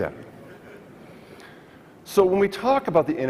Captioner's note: audience laughs